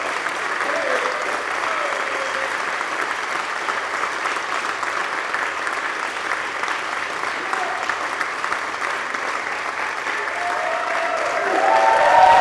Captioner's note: applause